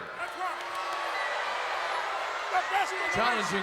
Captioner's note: crowd boos